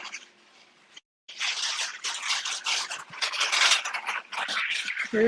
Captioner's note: materials clank